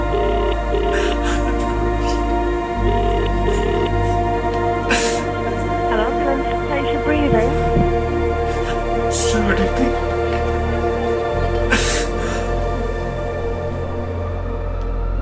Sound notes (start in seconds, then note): 9.4 faint chattering; 9.4 person crying